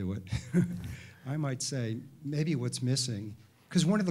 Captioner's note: chuckles